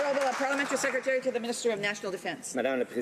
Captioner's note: some Applause